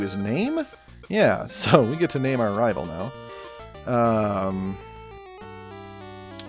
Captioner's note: chuckles